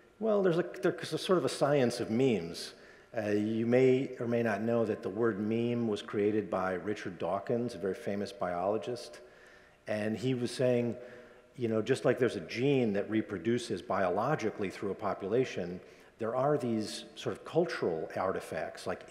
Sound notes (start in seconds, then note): none